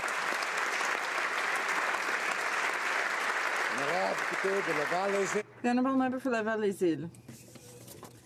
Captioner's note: applause